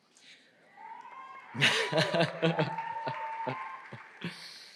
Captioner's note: audience cheering